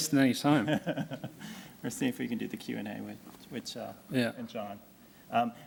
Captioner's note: laughs